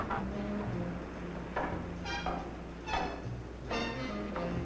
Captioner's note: metal door clanking nearby; footsteps tapping on stairs; jazzy dramatic music